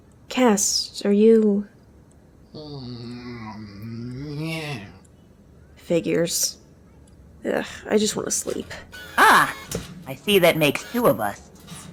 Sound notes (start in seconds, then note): 2.5 Cast moans in his sleep